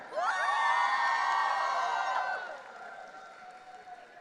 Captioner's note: audience cheering